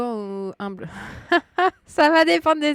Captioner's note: laughs